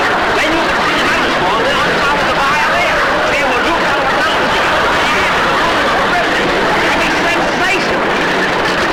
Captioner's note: Jack Jabbering Over Audience Laughter